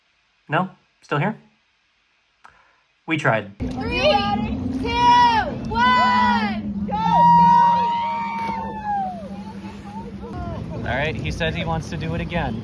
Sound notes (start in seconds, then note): 6.3 cheering and some screaming in terror